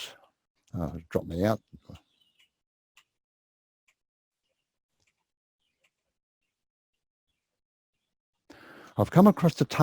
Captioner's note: pause